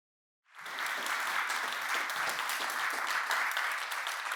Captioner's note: applause